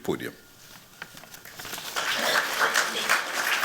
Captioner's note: applause